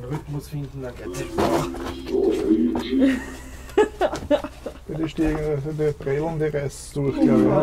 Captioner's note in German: laughing